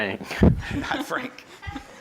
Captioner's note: laughs